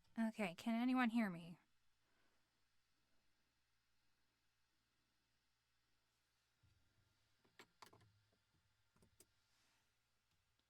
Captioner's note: more awful silence